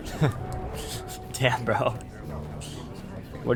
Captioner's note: chuckles